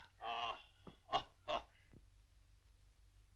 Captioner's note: laughing